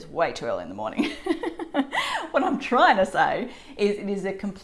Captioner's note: laughs